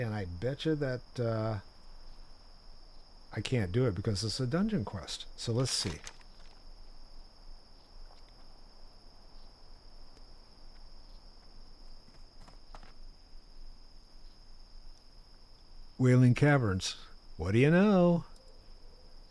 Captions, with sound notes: And I betcha that... I can't do it because it's a dungeon quest. So let's see. [crickets chirping] Wailing Caverns. What do you know?